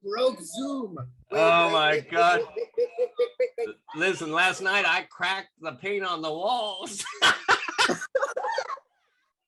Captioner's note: laughter